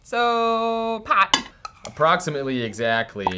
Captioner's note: clanking